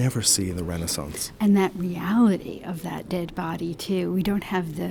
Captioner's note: voiceover